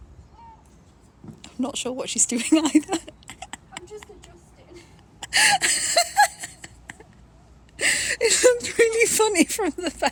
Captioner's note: laughing